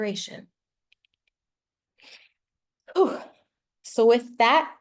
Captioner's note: sighs